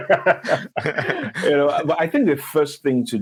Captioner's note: speakers laughing